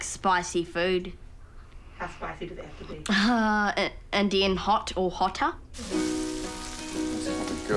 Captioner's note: chuckles